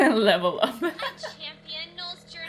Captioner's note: laughs